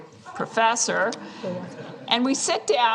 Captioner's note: laughter